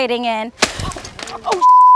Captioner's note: bone snapping